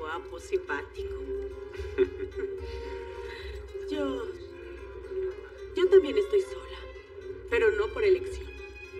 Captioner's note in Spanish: Ríe